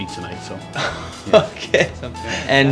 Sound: laughing

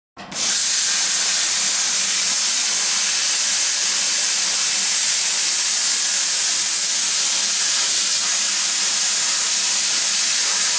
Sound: cutting

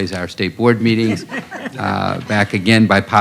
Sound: laughter

